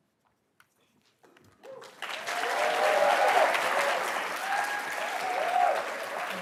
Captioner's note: attendees cheering and applauding